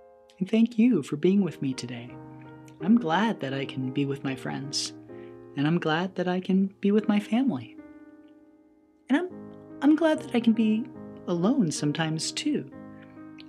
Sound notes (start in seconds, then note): none